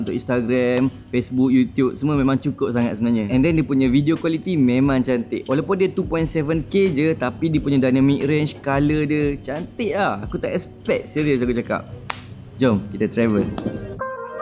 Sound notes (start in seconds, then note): none